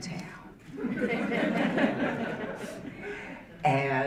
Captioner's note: audience laughing